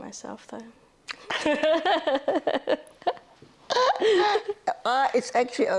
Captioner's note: laughter